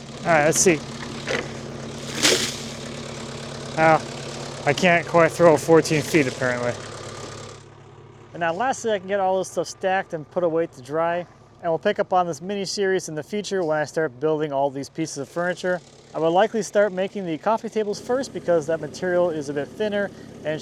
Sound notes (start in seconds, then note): 1.1 machine rumbling; 2.0 water splashing